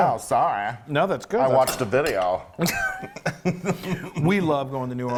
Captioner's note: laughs